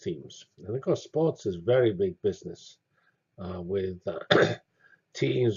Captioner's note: cough